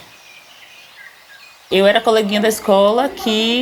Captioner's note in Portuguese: pássaros chilreando